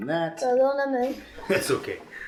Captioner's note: Spanish